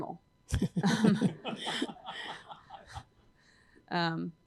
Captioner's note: laughter